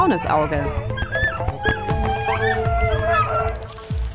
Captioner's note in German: Winseln